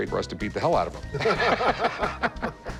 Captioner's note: laughter